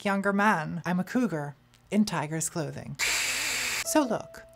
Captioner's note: hisses